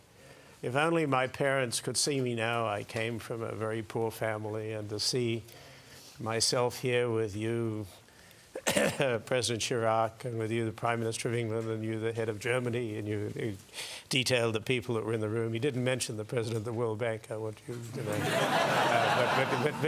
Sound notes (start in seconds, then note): 8.5 cough; 18.0 laugh